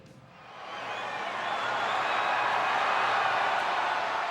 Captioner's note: crowd cheers